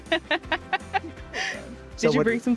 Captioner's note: laughs